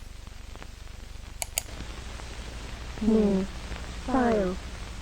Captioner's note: beeps on computer, Mouse Clicking